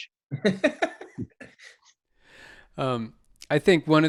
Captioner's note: Edgar laughing